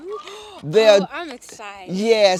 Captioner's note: gasps